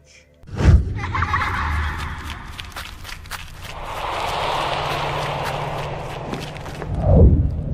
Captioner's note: kids laughing and running